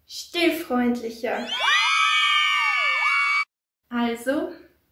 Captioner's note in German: Jubel